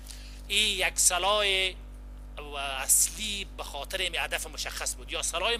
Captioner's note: translator speaking in foreign language